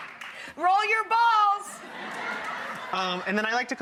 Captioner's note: audience laughing